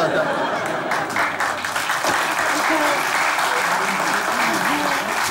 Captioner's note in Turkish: Kahkaha ve alkış sesleri